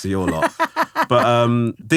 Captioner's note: laughing